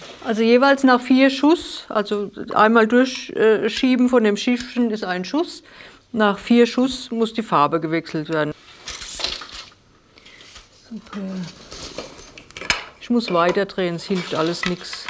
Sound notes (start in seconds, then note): 10.7 quietly